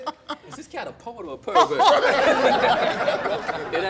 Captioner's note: laughter